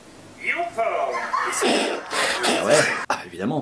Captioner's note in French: rires